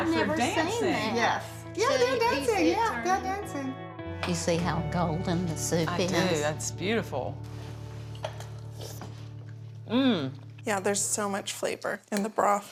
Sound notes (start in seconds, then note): 7.4 slurping